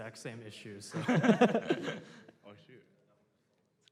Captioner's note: laughter